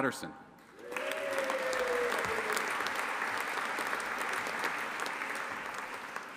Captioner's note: audience applauding and cheering